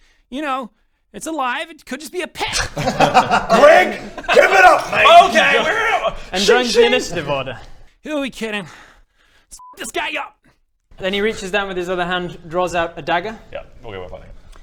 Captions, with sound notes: y'know it's alive, it could just be a pet *laughs* GREG! GIVE IT UP MATE! OKAY! WE'RE *sh-shing* and joins the initiative order Who we kidding let's f*** this guy up then he reaches down with his other hand, draws out a dagger Yep, we were played